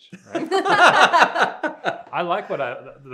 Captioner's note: all chuckling